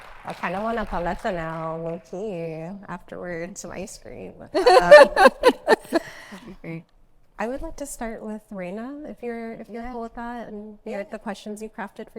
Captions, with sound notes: I kind of want a paleta now, lowkey. Afterwards some ice cream. (Panelists laugh) I would like to start with Raina, if you're cool with that, and the questions you crafted